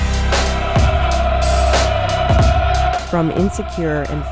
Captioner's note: recruits chanting